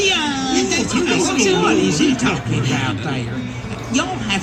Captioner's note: laughter